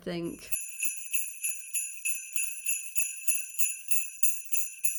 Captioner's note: sleigh bells